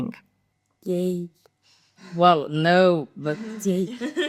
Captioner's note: laughters